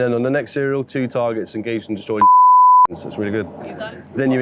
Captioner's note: beep